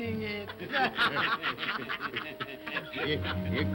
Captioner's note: all laugh & cackle